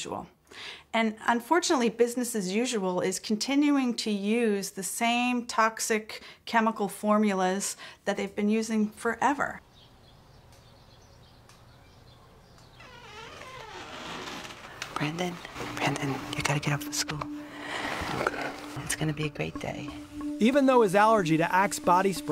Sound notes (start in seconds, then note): 9.6 birds chirping; 12.4 door opening